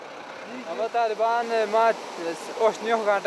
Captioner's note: foreign language